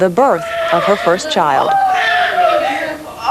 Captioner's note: baby cries